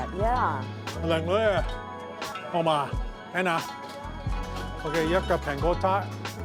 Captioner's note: speaking in foreign language